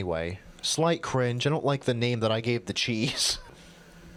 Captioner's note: cracks up a bit